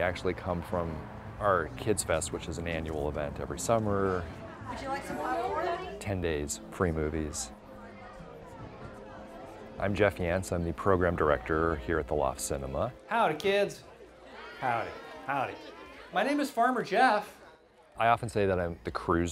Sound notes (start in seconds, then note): 5.0 staff and crowd talking; 14.3 crowd Of Children